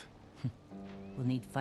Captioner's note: laugh